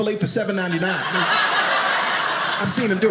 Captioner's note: audience laughing